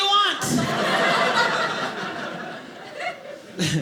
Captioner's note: audience laughing